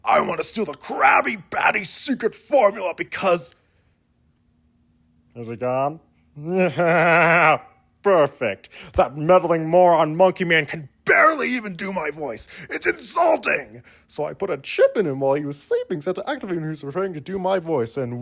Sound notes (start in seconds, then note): 6.7 maniacal laughter